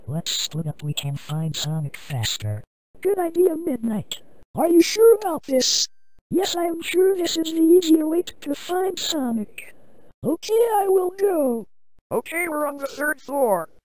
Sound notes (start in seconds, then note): none